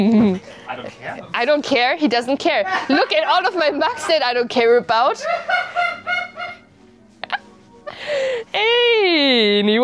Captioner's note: loud laughter from corner; shriek Laughing